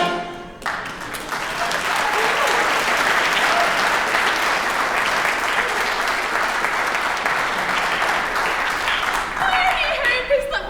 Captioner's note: applause